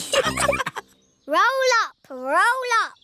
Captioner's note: all laughing